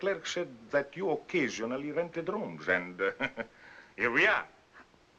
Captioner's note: chuckles